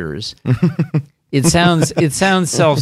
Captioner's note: laughs